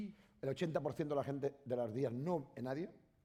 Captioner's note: speaking spanish